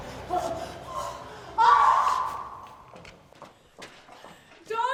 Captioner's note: screaming